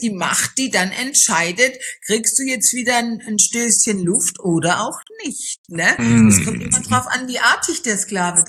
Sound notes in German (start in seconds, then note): 6.0 räuspern